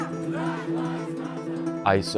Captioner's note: crowd